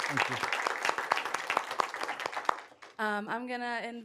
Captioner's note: applause